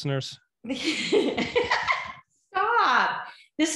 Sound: laughing

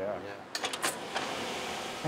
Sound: mechanical noise

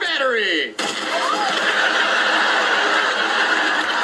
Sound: audience laughing at the poor goop monster’s misery

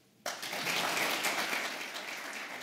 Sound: applause

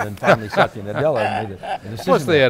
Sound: laughter

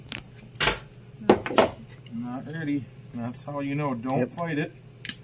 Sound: torch clicks on

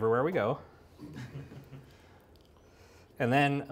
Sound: mild laughter

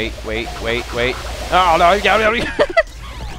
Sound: laughs

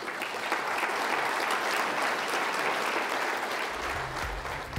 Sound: audience applauding

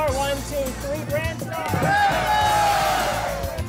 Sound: Group cheers Brandstar

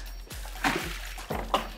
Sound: water splash

